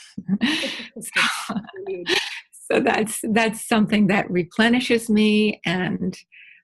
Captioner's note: laughing